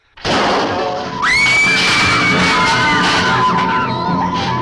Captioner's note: crash booming; girls screaming; suspenseful music